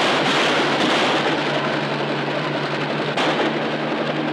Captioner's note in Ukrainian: постріли